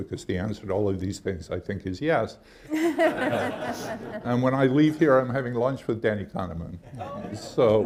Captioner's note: laughter